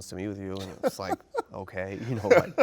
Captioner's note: laughing